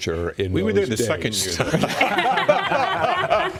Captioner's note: laughter